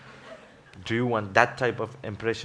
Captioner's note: laughs